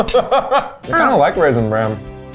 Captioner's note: laughs